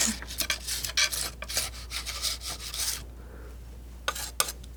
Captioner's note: scratching